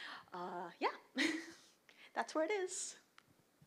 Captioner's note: chuckles